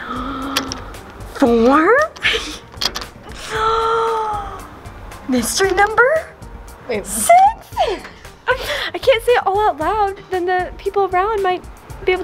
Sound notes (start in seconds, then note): 0.0 gasps; 3.3 gasps; 7.3 giggles